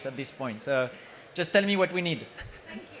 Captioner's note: chuckles